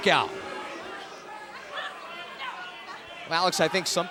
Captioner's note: crowd cheering